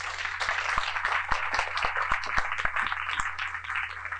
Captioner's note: applause